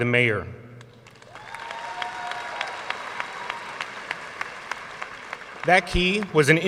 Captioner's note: audience cheering and applauding